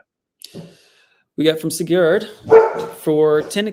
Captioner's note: dog barking